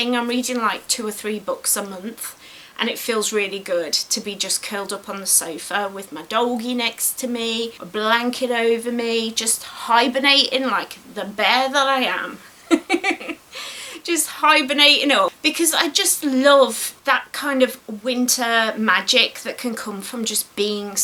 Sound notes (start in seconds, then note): 12.6 giggles